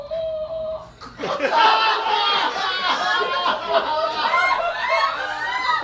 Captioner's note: audience laughs